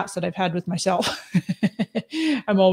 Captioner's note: laughs